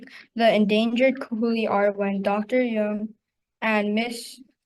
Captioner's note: student speaking in foreign language